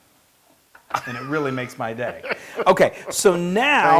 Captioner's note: laugh